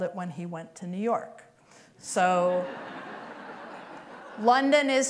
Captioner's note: laughter